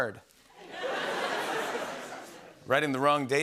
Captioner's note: laughter